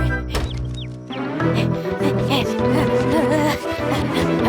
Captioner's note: panting